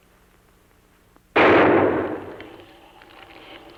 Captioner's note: bang